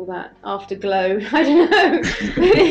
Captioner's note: laughs